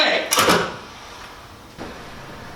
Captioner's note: phone hangs up